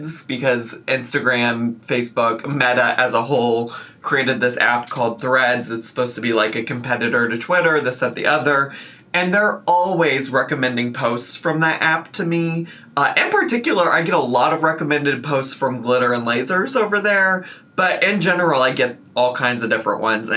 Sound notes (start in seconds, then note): none